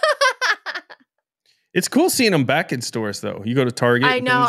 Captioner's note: laughing